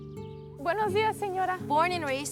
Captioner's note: speaking in foreign language